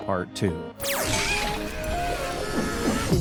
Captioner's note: electricity zapping; cosmic music